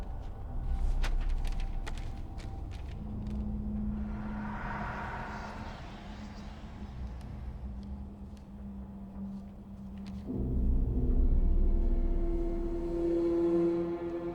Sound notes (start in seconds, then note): 4.4 eerie music; 6.6 voices whispering; 10.6 foreboding eerie music